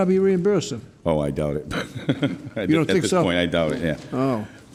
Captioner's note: laughs